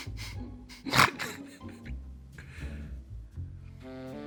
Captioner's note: laughs